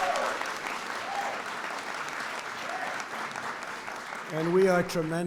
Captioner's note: applause